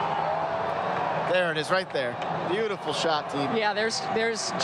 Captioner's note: applause